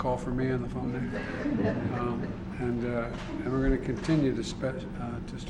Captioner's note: laughter